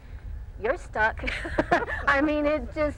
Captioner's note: laughing